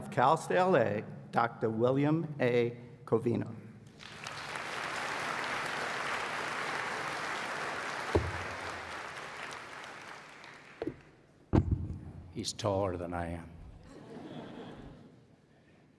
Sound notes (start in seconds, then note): 3.9 applause